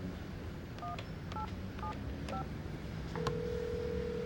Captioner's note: ringing